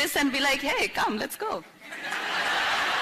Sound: laughter

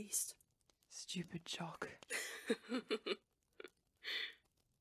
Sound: James laughs

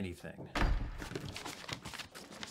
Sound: door slamming

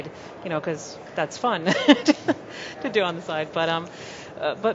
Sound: laughs

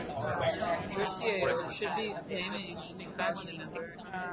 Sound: voiceover

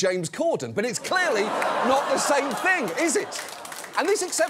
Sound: audience laughs

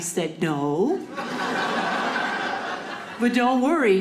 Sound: audience laughing

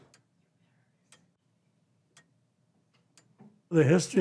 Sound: clock ticking

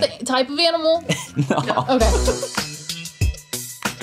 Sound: laughs

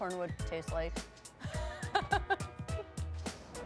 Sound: laughs

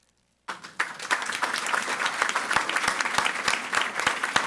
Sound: audience applauding

